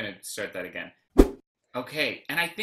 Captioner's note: whoosh